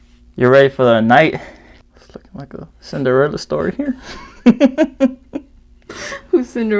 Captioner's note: giggles